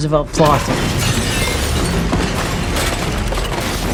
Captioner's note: cafe explodes